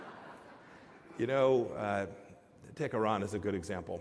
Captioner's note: laughter